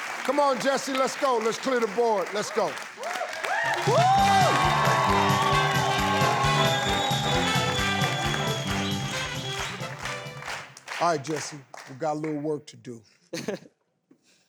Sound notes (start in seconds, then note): 0.0 audience applauding; 3.8 audience applauding; 4.0 lively orchestral music